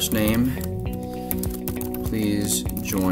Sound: keyboard keys clicking

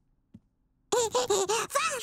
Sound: laughing

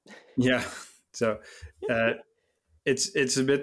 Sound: laughing

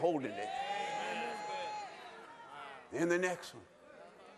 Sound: shouting

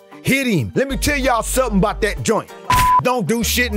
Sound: beep

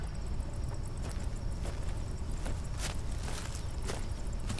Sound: insects continue to chirp

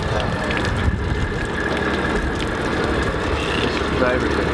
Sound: water dripping

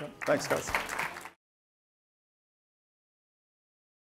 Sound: audience cheers

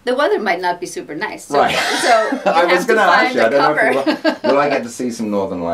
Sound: laughs

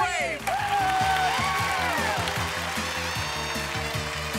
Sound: applause

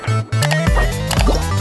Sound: mouse click

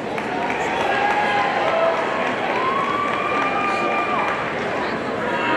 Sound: audience cheering and applauding

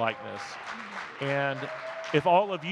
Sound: audience clapping

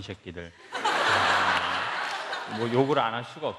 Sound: laugh

